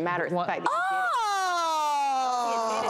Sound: audience jeers

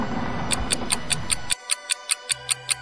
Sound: door opening; ticking

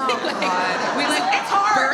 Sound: audience laughs

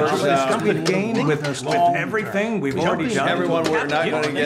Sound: projector clicking

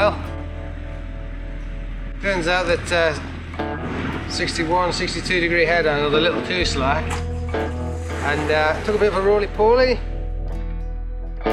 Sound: a crash

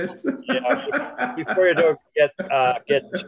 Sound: laughing

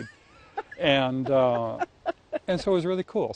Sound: laughs

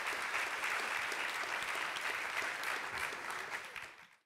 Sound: audience applauds

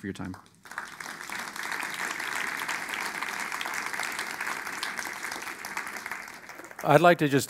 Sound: applause

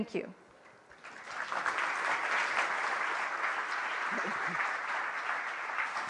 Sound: applause

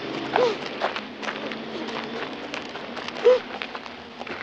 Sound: Mrs. Hocker sobbing

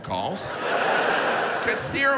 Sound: audience laughs

